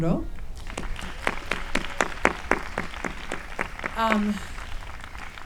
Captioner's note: audience applauding